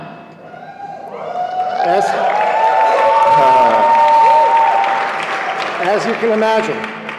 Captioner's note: cheering